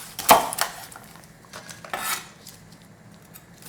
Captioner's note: knife cutting